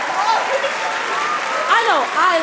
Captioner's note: applause; cheering